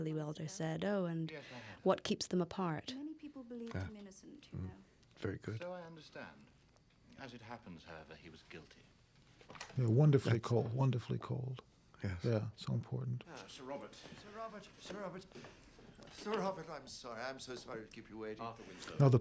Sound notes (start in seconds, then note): 8.1 door Opens